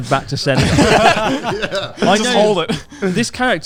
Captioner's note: all laughing quickly